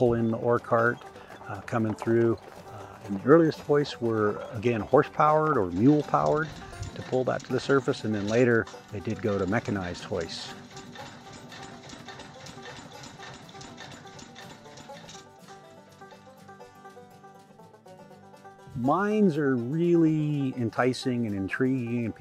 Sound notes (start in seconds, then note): 0.1 hooves on gravel; 5.6 engine sounds